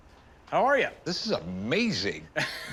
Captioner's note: laughs